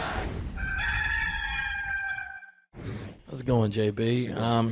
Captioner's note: rooster crowing